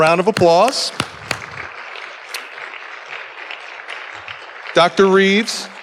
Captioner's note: audience applauding